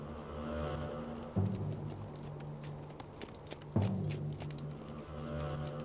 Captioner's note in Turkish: At nalı sesi